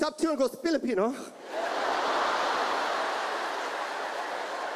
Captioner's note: audience laughs